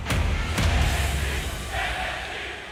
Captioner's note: fans chanting